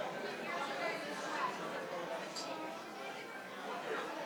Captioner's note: participants chatter